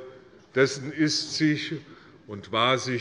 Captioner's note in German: none